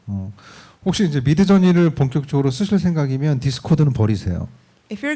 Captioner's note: speaking korean